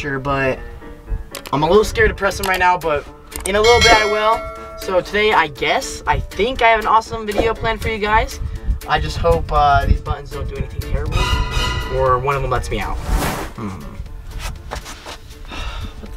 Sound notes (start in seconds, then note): 3.6 cowbell ringing; 11.1 suspenseful music; 12.8 air whooshing; 13.4 humming